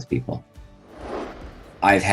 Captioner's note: air whooshing